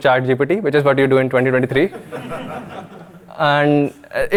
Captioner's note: audience laughing